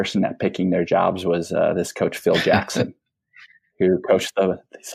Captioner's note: laughs